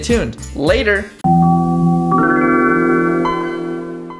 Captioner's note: Windows 95 startup sound